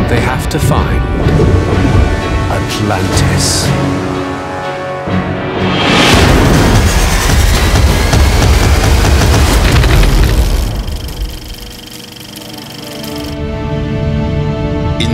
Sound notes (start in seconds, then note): 3.1 suspenseful music; 6.1 dramatic music; 10.2 film reel clicking; 13.4 peaceful music